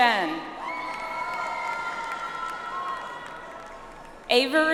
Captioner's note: audience applauds